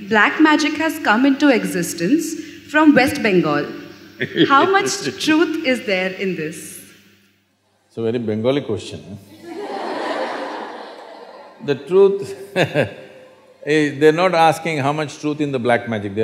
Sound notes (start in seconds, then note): 4.2 Sadhguru laughs; 9.3 laughter; 11.9 laughs